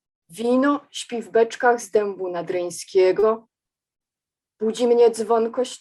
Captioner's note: speaking in foreign language